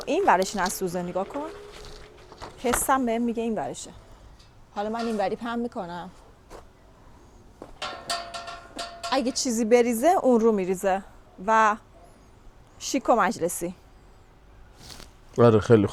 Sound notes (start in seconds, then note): none